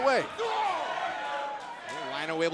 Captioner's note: crowd cheering